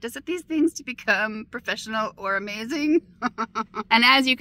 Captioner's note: laughing